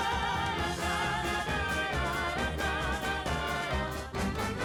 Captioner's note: upbeat music; people vocalizing